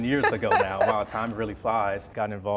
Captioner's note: laughs